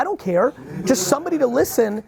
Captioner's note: laughs